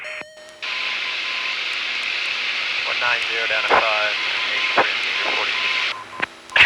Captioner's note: background radio and beeping